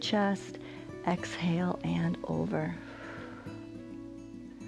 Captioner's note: exhales